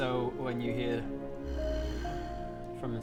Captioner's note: probably friendly growl